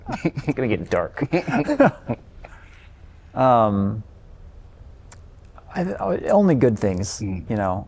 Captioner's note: laughter